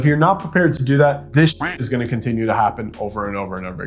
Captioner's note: duck quacking